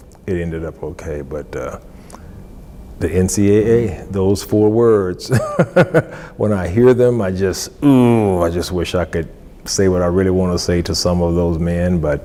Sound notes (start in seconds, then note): 5.3 laughs